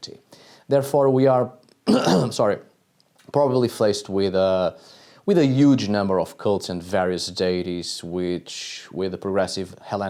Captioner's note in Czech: kašlu